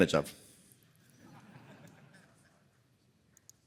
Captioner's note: laughter